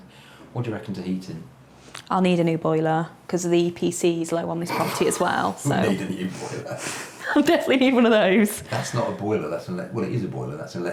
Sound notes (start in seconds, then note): 4.6 laughs; 7.5 laughs